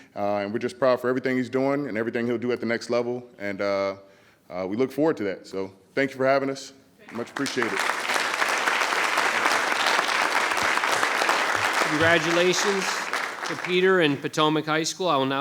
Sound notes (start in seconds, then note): 7.0 audience applauding